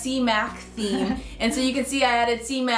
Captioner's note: laughing